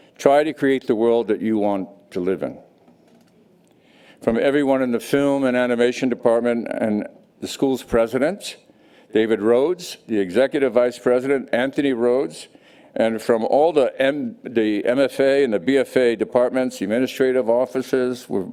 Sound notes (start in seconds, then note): none